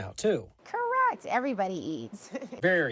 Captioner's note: laughs